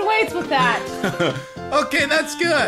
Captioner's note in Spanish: risas de Red